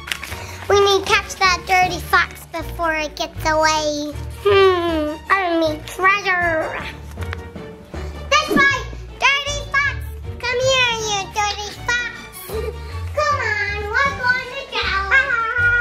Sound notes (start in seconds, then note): none